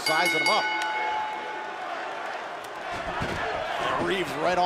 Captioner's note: bell ringing